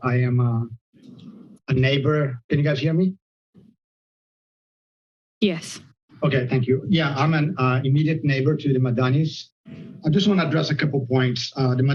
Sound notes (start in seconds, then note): 3.4 silence